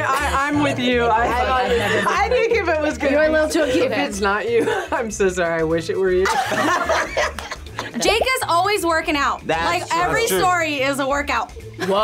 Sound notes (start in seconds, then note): 0.0 laughs; 6.2 group laughs